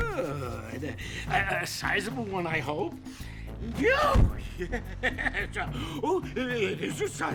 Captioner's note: exclaims, stutters